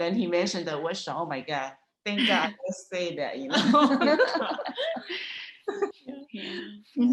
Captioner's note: laughter